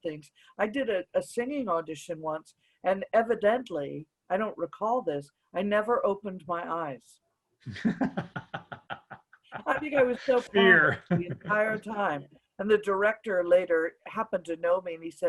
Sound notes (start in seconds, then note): 7.7 laughs